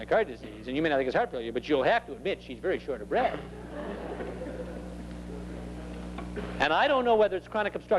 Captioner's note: laughter